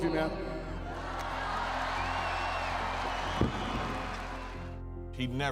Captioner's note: audience cheers and applauds